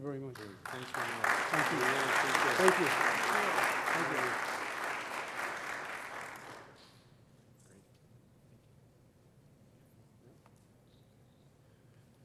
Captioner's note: applause